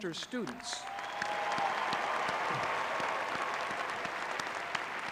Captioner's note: audience cheering